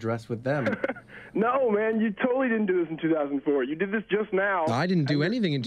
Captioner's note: caller chuckles